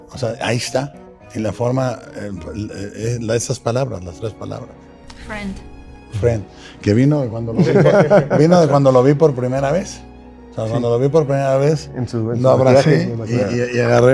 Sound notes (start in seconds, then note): 7.6 laughing